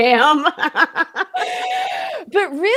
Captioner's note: both laughing